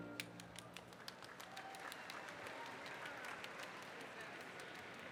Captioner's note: audience applauds